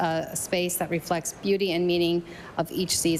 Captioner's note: none